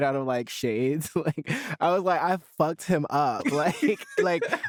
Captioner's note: both laughing